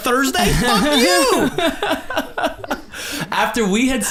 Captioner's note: group laughs